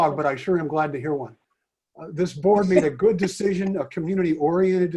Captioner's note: laughter